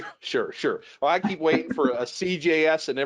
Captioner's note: chuckles